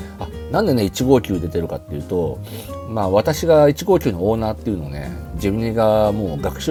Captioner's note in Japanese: 鼻息